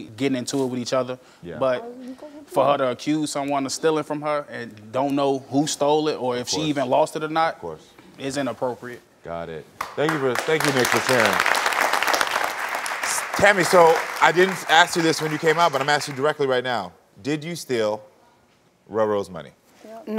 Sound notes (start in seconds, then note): 9.8 audience applauding